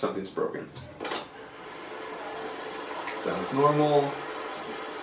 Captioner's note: film reel sound